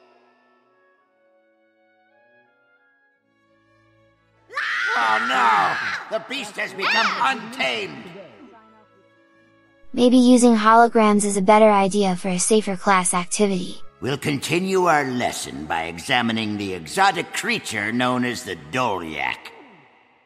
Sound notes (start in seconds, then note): 4.5 children screaming